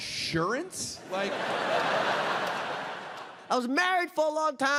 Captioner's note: audience laughs